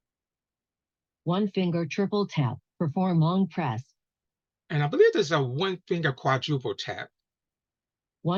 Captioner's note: automated voice is reading options